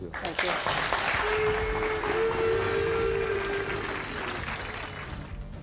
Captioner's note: audience applauds and chants; suspenseful music